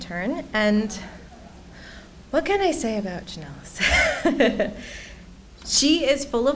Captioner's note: laughs